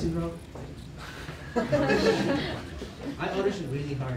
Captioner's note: laughter